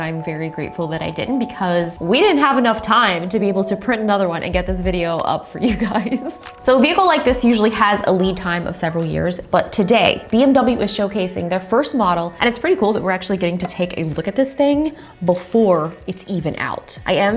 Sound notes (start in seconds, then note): 5.6 chuckling